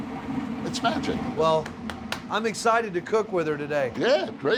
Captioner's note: taps oven